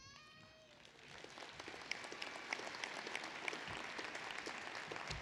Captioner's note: applause